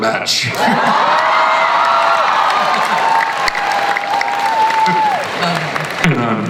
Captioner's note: audience and panelists cheer